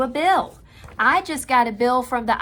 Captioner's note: papers rustling